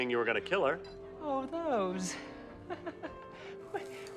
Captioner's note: chuckling